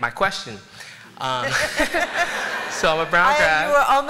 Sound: laughter

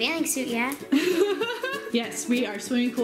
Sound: laughing

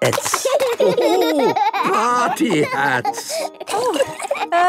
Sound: laughing

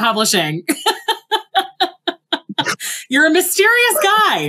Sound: laughs

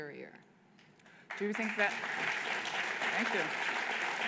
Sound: applause

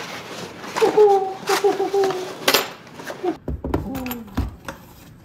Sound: cardboard rips and rustles; excitedly coos

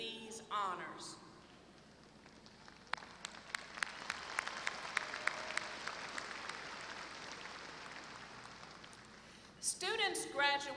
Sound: applause

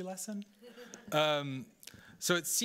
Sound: audience laughing

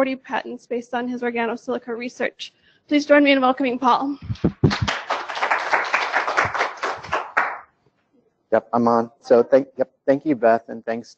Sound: applause

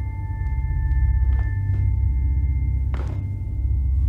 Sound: footsteps

